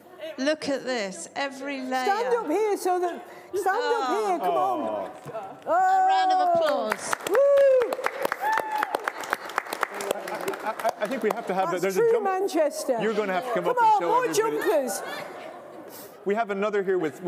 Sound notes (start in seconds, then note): 9.4 applause